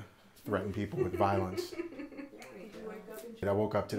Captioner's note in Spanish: se ríe